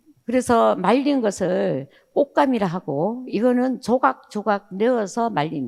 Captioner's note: speaking in foreign language